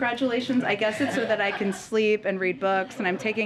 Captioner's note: laughter